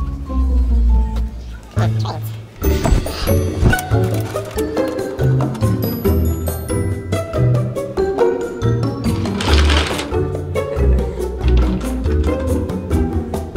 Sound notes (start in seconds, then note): 2.6 suspenseful music; 9.0 toy train rattling; 10.8 playful music